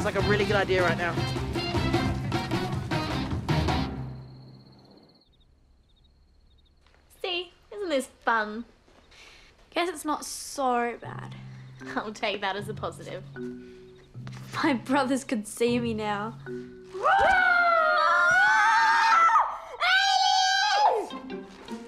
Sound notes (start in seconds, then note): 16.9 boy 1 and 2 scream; 17.9 boy 1 and 2 growl